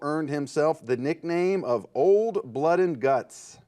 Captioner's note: none